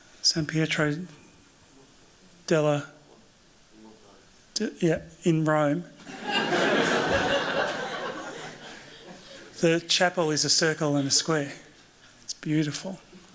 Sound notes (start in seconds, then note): 6.0 laughter